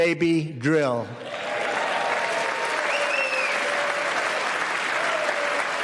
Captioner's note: applause